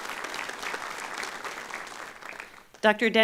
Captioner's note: applause